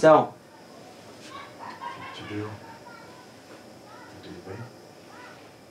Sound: both speaking foreign language; man speaking foreign language

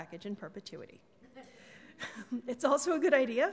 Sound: laughs

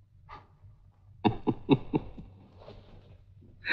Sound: laughs

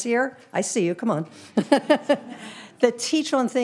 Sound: all laughing

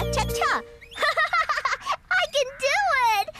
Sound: laughing

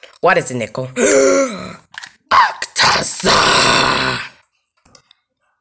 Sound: gasp

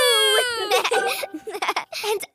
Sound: both giggling

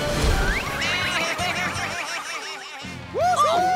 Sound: baaing

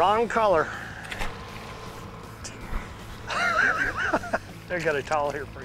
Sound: laughing

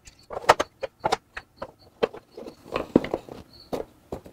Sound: crickets chirping

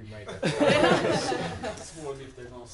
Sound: laughter

